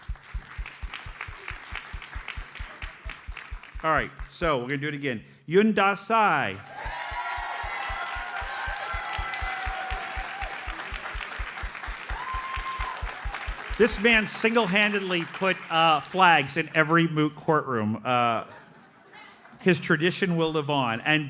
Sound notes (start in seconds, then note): 7.0 audience cheers and applauds